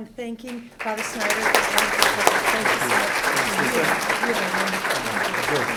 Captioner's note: drowned out by applause